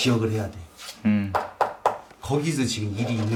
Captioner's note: knock the wall